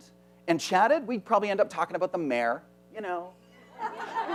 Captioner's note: chuckling